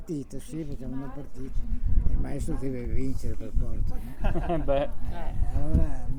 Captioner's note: laughter